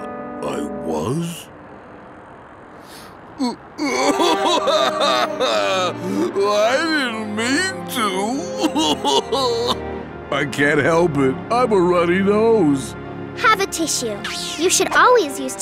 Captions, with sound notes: I was? [crying] I didn't mean to. [crying] I can't help it. I'm a running nose. Have a tissue. You should always use tissues